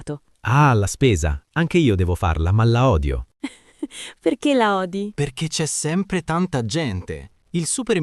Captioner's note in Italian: risate